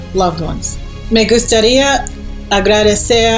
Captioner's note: Spanish